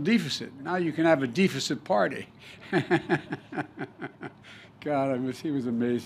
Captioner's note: laughter